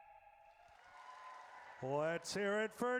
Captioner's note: audience cheers